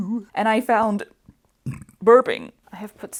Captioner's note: singing; burp